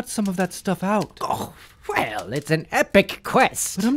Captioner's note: scoffs